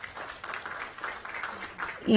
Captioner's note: applause